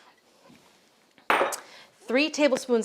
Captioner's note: bottle clinks